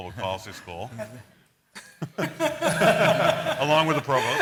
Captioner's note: laughter